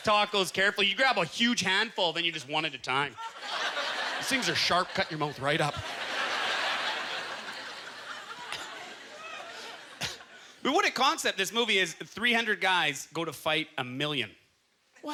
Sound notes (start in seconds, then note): 6.0 audience laughter